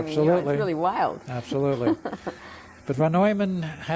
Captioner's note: laughs